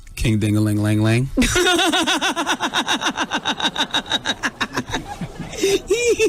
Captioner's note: laughter